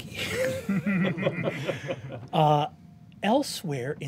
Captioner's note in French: rires